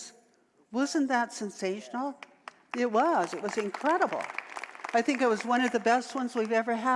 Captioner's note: audience applause